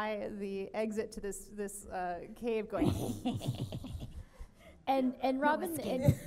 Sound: cackles

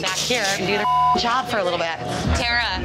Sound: beep

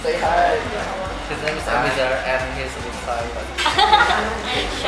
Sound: laughs

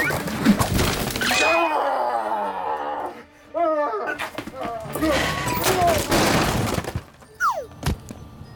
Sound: Scorpion Screams in Pain

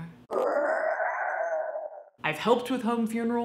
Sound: dog yowling

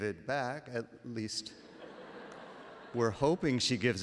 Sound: laughter

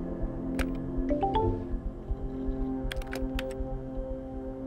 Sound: electronic chiming; soft music

